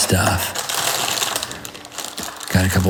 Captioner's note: jewelry rattling